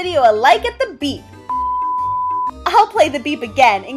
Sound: beep

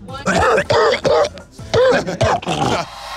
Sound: cough

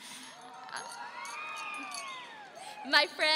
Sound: audience cheering

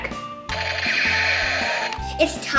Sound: toy laser gun sound effects

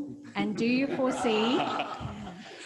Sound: audience laughing

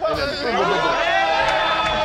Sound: applause

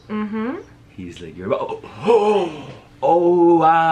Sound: gasps

